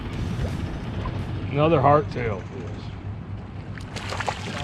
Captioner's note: fish splashing